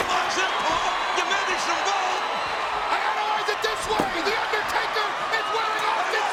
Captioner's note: crowd cheering; presenter speaking faintly off mic; overlapping chatter